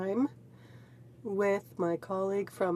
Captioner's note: speaking french